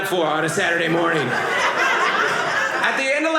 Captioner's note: audience laughing